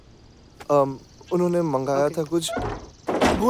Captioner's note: Door closing